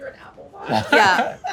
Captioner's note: laughing